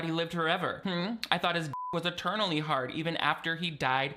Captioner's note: beep